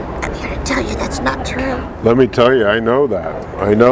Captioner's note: whispering